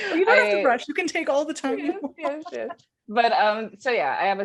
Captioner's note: laughing